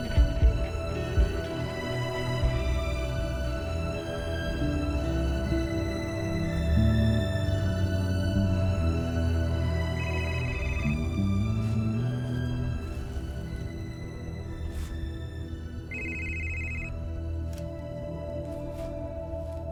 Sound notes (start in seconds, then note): 10.2 phone ringing